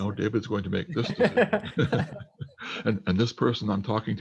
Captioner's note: laughs